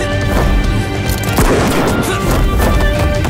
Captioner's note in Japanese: 銃声